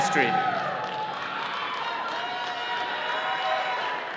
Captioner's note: all cheering